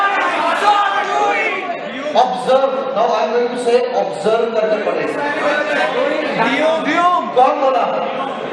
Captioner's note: crowd Shouting; crowd shouting again